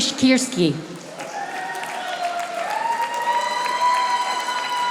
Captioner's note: audience applauding